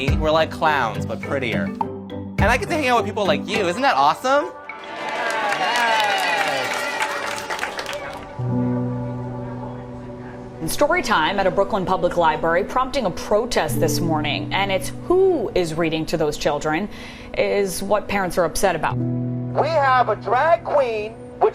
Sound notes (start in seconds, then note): 4.7 applause and cheering